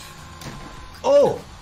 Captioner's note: head thudding